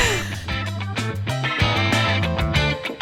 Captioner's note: sigh